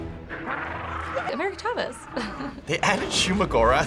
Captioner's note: laughs